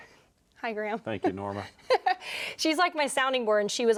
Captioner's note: laughs